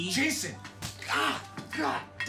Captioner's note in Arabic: صفع حاد; آهات